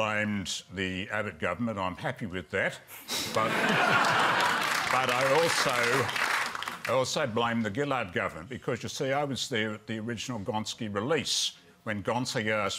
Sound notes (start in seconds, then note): 3.2 laughter and applause